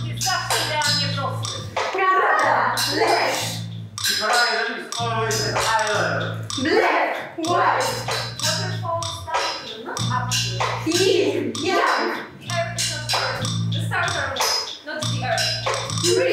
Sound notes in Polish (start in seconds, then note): 0.3 Po polsku; 4.3 Po angielsku